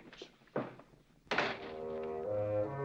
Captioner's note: door closing